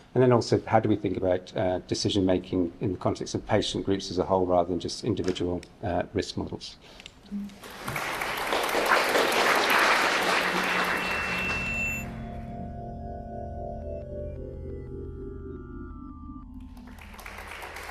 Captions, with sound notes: And then also how do we think about decision making in the context of patient groups as a whole, rather than just individual risk models? [Applause] [Drone-like music] [Applause]